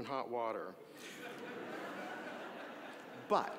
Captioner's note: audience laughing